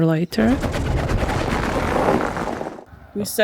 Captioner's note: flat tire